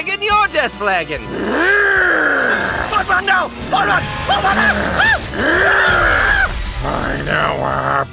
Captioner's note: angry zombie destruction noises